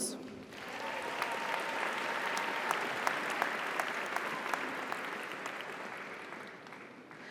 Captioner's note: audience applauds; audience cheers